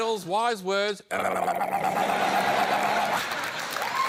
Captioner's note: makes gargling sound